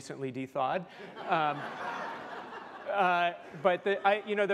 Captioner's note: laughter